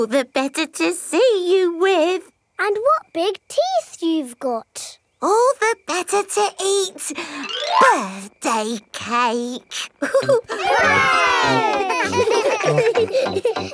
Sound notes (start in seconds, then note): 10.0 chuckles; 10.0 laughing